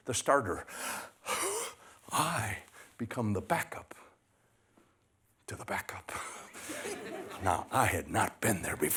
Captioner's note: gasps